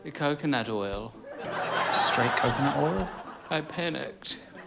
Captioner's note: audience laughs